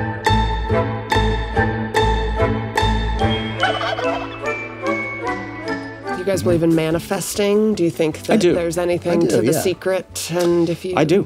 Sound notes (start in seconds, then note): 0.1 pleasant music; 3.6 ostrich squawks